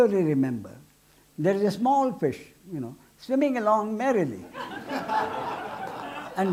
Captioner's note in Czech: smích